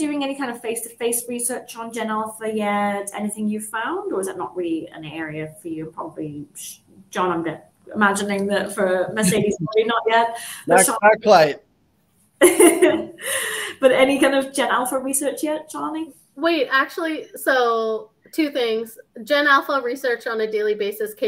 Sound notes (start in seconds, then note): 12.4 chuckles